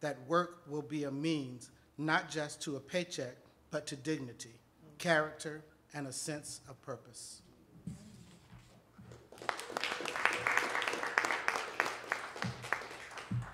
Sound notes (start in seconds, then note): 9.1 audience applauding